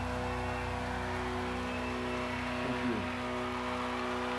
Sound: cheers and applause

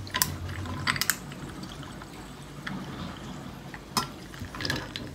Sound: pakipaki sound I'm dying ~

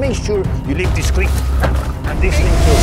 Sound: bin thuds onto ground

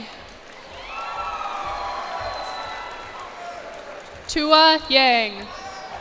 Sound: cheers and applause

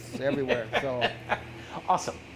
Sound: laughs

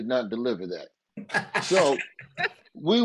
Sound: all laugh

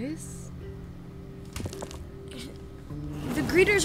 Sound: crackle

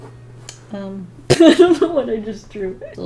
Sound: laughs

